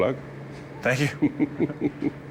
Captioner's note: laughter